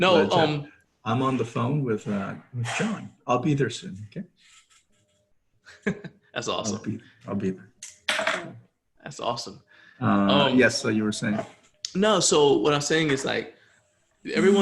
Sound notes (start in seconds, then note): 5.7 laughs